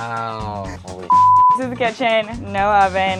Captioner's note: beep